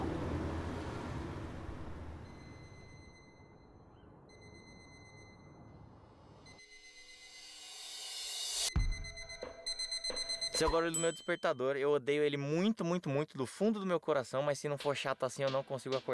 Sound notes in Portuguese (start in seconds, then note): 1.9 alarme de despertador à distância; 6.4 alarme de despertador mais forte; 8.5 alarme de despertador bem alto